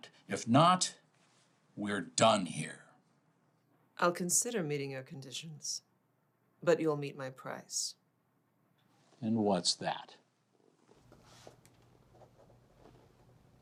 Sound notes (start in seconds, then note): none